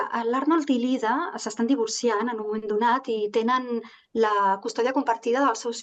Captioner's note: speaking in Catalan